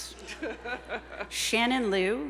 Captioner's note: laughs